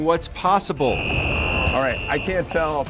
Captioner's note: whistle blwoing